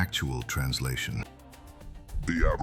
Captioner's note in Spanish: Voz extraterrestre